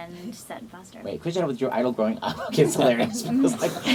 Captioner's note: laughs